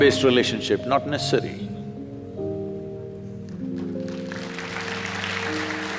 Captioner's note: applause